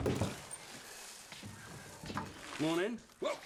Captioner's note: cereal clattering